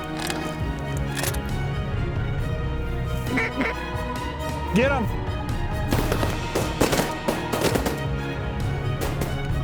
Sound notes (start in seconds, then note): 3.3 duck calls; 5.9 gun shots